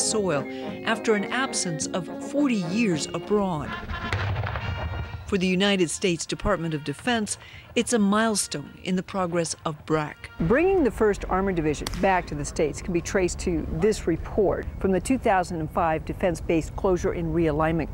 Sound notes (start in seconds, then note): 4.0 weapon fires